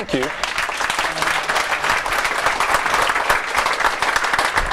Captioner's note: audience applauds